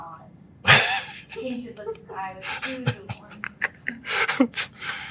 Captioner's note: laugh